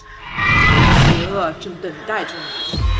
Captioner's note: Mandarin language